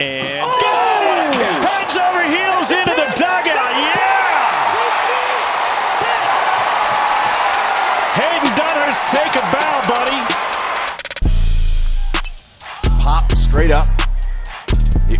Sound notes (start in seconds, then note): 4.5 crowd cheering